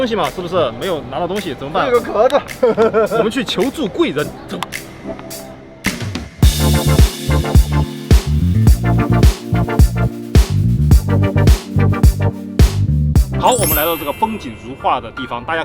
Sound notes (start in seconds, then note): 2.4 awkward laughing